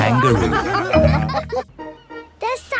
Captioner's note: all laughing